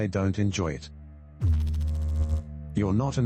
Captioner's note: electrical noise